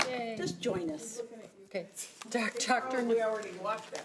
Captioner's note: overlapping chattering